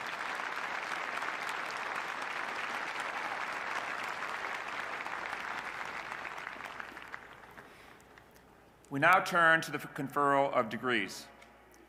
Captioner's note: applause